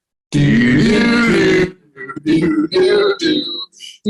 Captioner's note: all humming